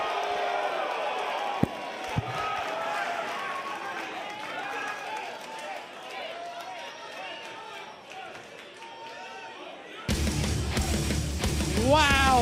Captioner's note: crowd cheering; crowd chatter